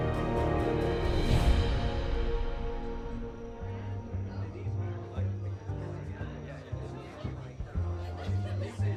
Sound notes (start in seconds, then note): 0.0 jazz playing; 2.7 people conversing and laughing